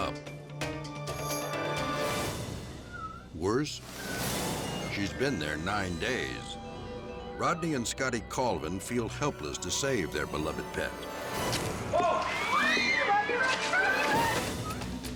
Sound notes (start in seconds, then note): 0.0 dramatic music; 11.5 cat meows; 11.9 bystanders clamor